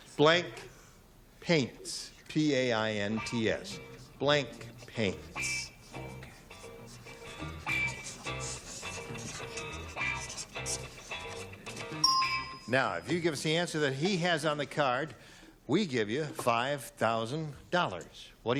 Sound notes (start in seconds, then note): 6.5 theme music; 12.0 pinging